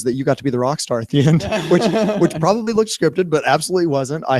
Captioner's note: laughter